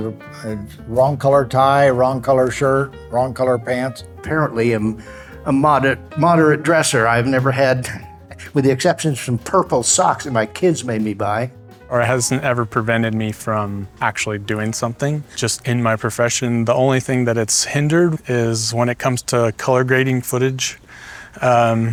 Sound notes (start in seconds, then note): 7.6 laughs